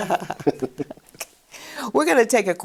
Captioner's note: chuckle